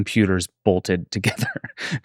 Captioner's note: laughs